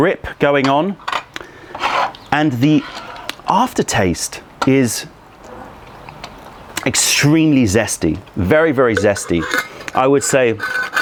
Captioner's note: pouring tea